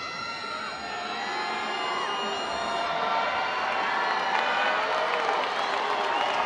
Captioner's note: audience cheering; audience applauding